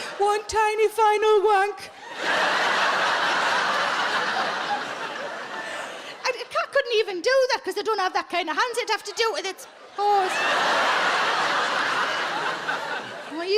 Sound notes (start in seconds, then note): 2.0 audience laughing; 10.4 audience laughing